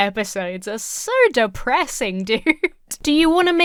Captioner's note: chuckles uncomfortably